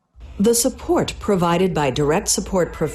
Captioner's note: voiceover